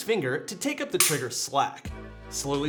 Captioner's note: trigger clicks